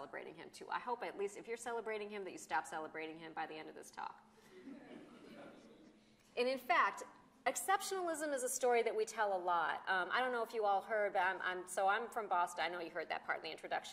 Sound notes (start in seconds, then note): 4.6 laughter